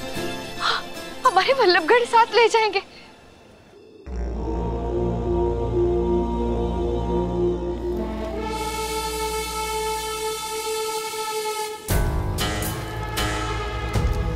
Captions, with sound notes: with me to Vallabhgarh. [chanting] [dark music]